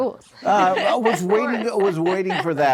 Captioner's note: laughter